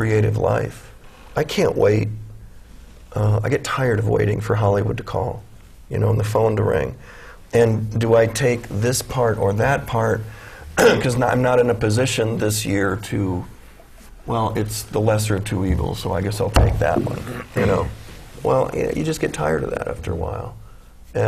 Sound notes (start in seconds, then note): 10.7 clears throat